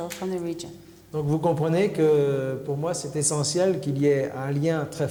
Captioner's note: speaking french